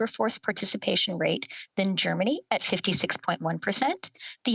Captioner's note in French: voix de l'interprète